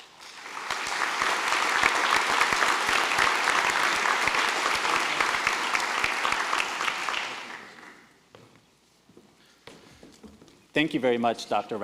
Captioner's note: applause